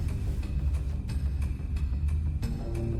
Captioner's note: discomforting rumble